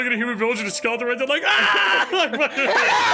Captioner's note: all laughing; yells